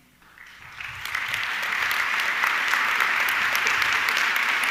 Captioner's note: audience clapping